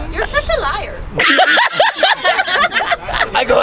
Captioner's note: audience laughing